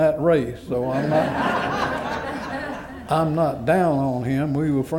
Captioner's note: laughter